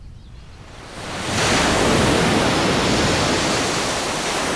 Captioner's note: waves crashing